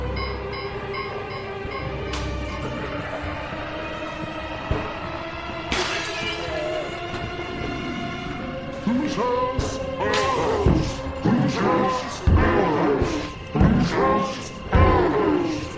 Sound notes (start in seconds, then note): 2.4 zombies growling; 5.7 glass shattering